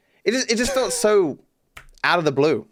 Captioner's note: laughs